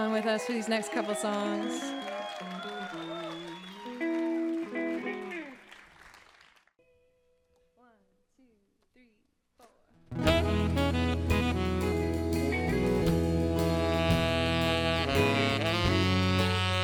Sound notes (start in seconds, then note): 3.1 crowd applause